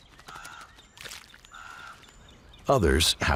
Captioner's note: chomps on carcass